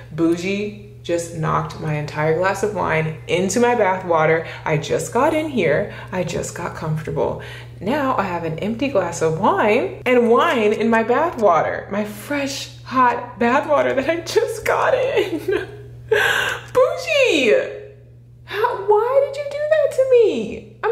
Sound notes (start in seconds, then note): 15.4 voice breaking